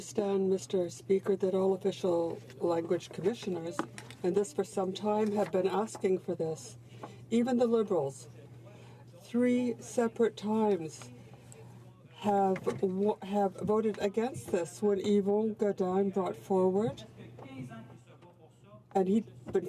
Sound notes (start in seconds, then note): 4.8 speaking French